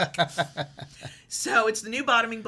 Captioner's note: laughs